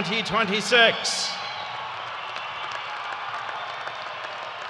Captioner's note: cheers and applause